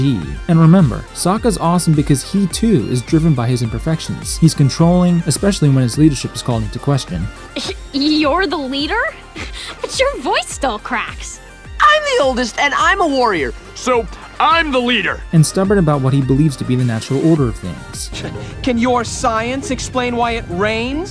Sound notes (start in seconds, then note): 8.9 giggling; 11.7 cracking